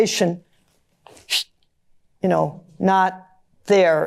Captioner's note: imitates wind blowing away